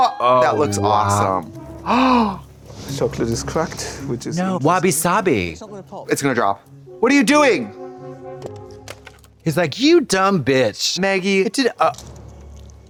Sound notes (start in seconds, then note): 1.6 Trixie gasps; 8.4 shell cracking